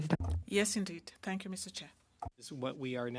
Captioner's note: speaking FRENCH